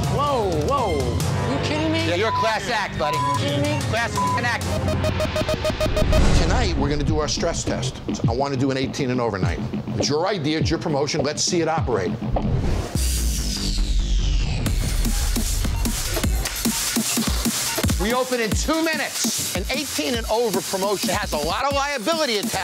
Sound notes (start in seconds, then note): 1.9 beep; 5.1 alarm blares; 12.9 upbeat music